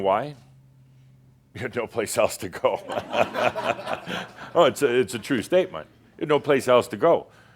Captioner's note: laughter